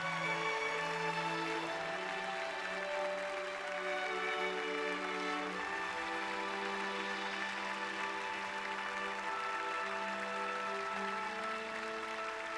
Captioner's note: applause